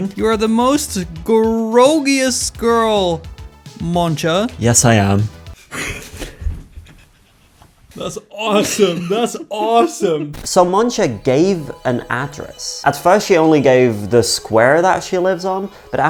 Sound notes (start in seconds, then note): 5.5 both laughing